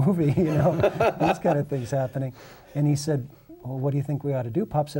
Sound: laughter

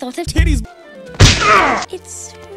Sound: impact

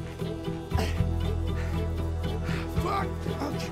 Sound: panting

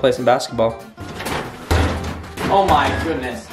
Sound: balls bouncing

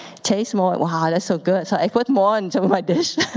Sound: laughs

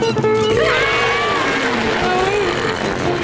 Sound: screaming

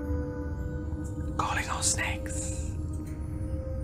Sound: whisper

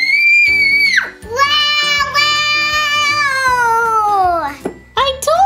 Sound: happy screams

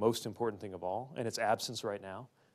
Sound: none

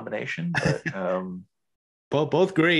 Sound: laughs

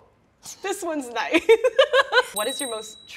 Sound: giggling cutely; bells ringing

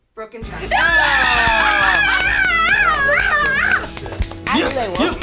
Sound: screaming

